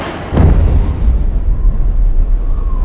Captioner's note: explosion